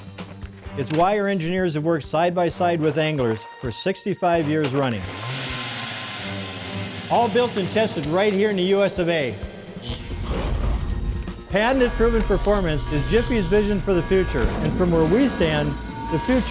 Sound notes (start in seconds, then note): 4.9 auger motor; 10.2 fire sound